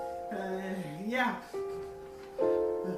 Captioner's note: studdering